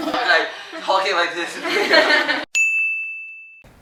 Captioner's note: all: Laugh